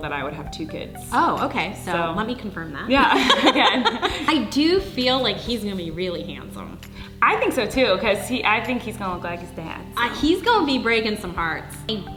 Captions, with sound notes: that I would have two kids. - Oh okay, so let me confirm that. - Yeah, again. (laughing) - I do feel like he's gonna be really handsome. - I think so, too, 'cause I think he's gonna look like his dad, so. - He's gonna be breakin' some hearts.